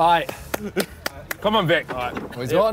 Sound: clapping

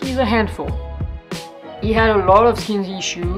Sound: none

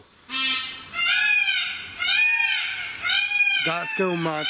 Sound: peacocks squawking

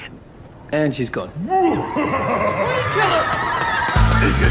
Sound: evil laugh

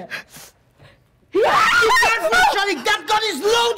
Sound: Zina loudly screams

